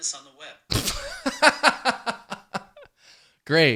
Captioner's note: laughing